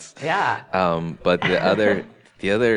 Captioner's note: laughs